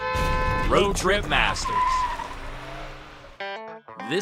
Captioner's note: car running